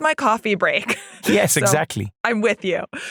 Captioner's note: laugh